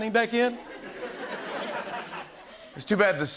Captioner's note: laughter